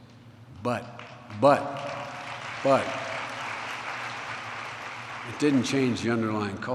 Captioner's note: applause